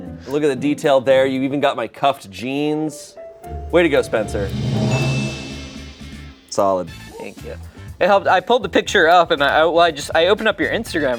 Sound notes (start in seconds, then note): 3.5 drum roll hisses; 3.9 bell chimes